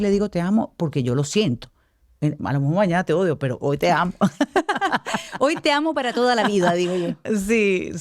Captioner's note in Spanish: risas